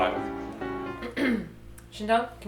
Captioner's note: clears throat